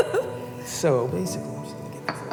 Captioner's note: dishes clattering